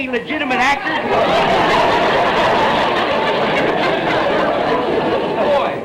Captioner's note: audience laughter